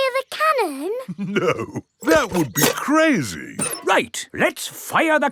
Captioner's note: chuckling